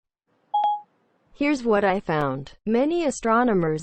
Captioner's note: Siri said in her robotic voice